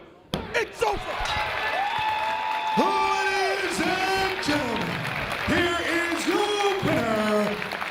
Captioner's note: applause